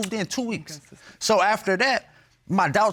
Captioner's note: mumbling